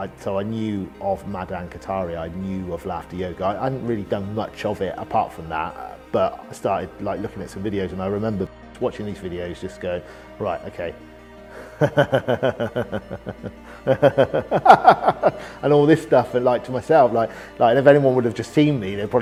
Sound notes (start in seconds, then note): 11.6 laughing